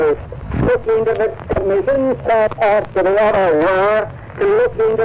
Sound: record skips

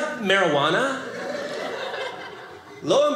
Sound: audience laughing

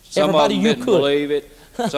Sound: laughter

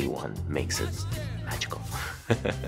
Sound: laughing

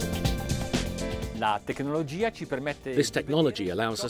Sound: speaking in a foreign language

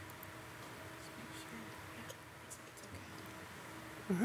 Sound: softly whispering

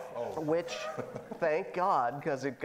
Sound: laughing

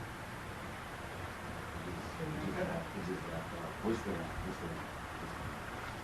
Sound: people chattering faintly

